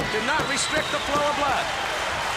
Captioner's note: crowd cheering